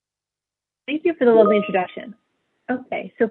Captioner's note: chimes